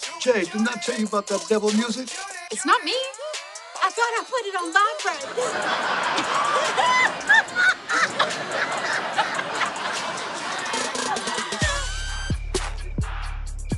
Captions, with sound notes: Jade, didn't I tell you about that devil music? It's not me. I thought I put it on vibrate. [all laugh] [hip-hop music plays]